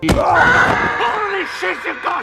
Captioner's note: scream